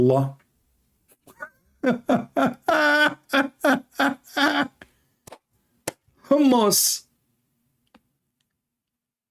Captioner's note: Ketawa